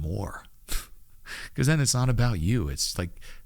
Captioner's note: chuckles